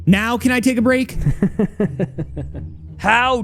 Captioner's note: chuckles